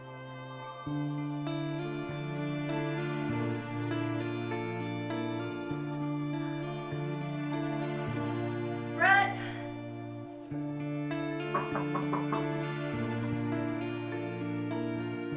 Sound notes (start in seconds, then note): 0.9 brooding music continues; 11.5 knocks on door